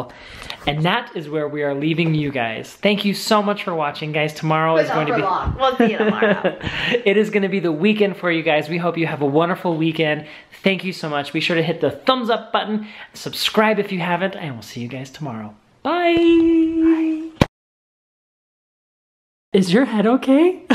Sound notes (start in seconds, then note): 6.4 laughing